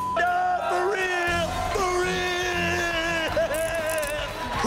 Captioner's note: laughing; audience cheering